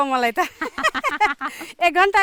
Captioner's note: laughs